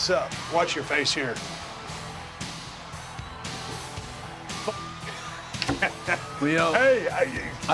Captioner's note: laugh